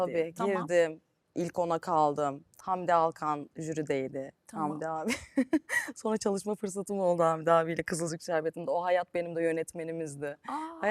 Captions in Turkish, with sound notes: Tabii tabii. Girdim. İlk ona kaldım. Hamdi Alkan jürideydi. Hamdi abi. [kahkaha] Sonra çalışma fırsatım oldu Hamide abiyle Kızılcük şerbetinde. O hayat benim de yönetmenimizdi.